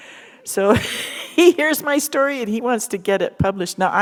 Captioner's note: chuckle